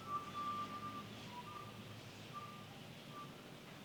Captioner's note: whistling